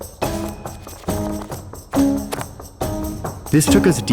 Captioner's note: book pages flicking